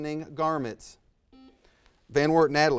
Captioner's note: buzzer buzzes